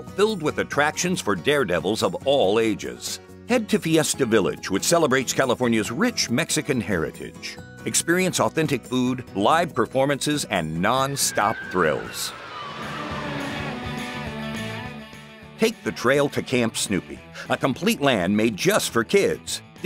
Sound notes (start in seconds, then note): 10.8 people scream; 13.0 upbeat music